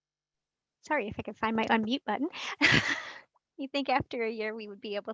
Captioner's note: laughs